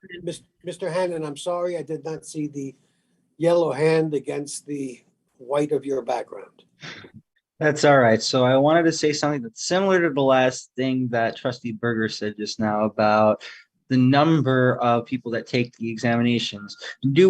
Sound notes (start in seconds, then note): 6.8 laughs